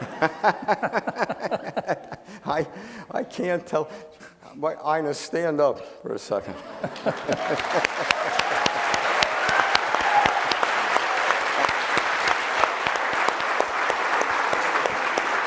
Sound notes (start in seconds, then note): 0.0 laughing; 6.7 audience applauding